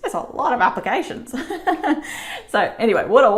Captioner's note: laughs